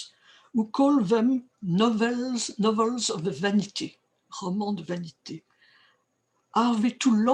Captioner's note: french